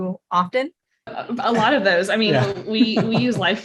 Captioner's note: laughter